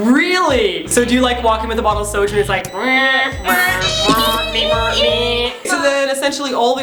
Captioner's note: alarm&robot sounds